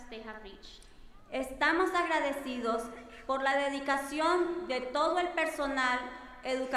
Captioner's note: speaking in foreign language